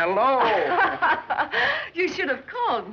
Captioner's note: laughing